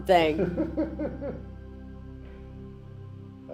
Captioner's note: laughs